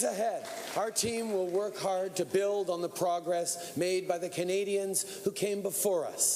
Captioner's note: cheering